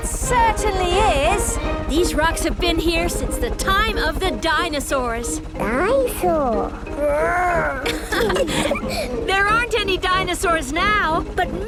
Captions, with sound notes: - It certainly is! - These rocks have been here since the time of the dinosaurs! - Dinosaurs! Grrr! (laughing) - There aren't any dinosaurs now